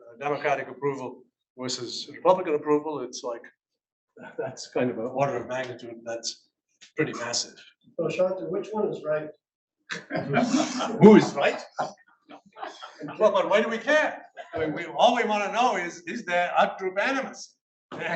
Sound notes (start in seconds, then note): 10.2 audience laughs